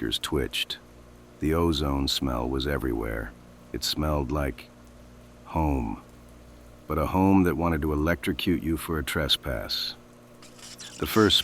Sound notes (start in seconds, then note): 10.9 sound: A sharp, melodic electrical hum. The sound of surging power